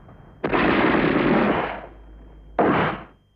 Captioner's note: gunshots